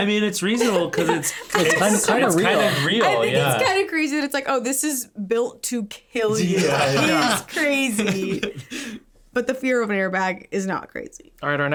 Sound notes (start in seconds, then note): 6.3 laughing